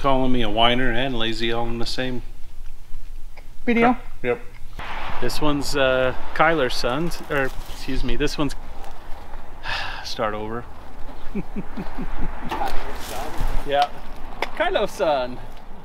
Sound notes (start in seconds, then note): 9.6 sigh; 11.2 laughing; 14.6 laughing